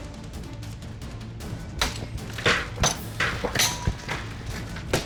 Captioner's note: ice shattering